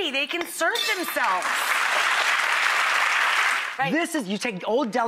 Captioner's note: audience applause